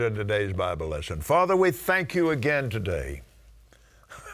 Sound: laughing

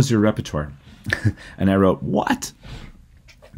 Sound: laughter

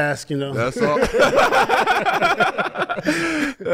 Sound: group laughs

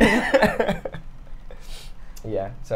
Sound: all laugh

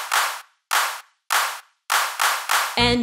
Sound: clap

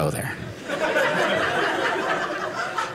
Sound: audience laughing

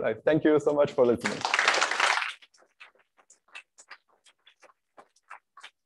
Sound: applause

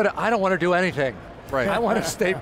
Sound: group Chatter

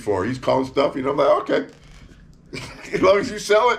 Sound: laughs

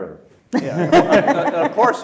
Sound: panel laughs

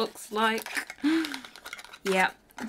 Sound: box rattling

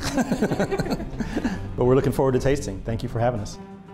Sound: laughter

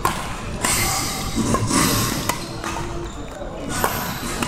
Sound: workers fixing the roof making all sort of noises

